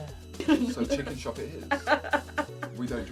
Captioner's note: laughing